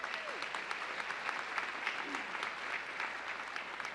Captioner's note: audience applauding